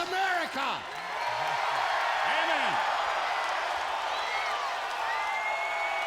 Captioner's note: audience cheering